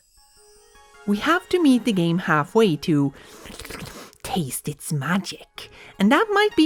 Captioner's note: slurps tongue